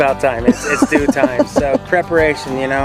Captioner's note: laughing